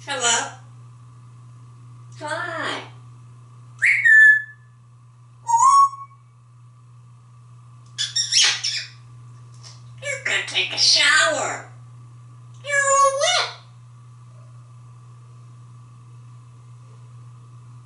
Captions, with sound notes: Hello? Hi. [Tweets and whistles] You go take a shower. You´re all wet!